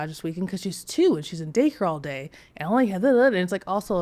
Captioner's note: stutters